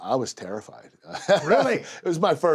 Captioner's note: laugh